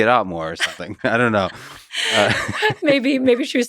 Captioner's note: laughs